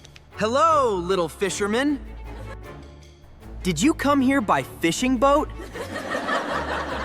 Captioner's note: laughter